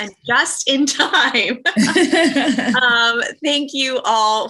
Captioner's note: laughter